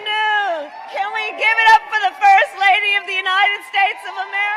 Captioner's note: applause